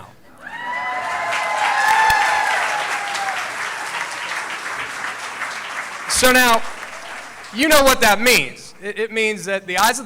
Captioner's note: cheering